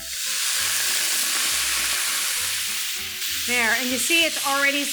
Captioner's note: pan sizzling